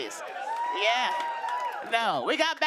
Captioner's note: cheers and applause